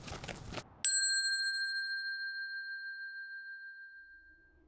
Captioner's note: bell dings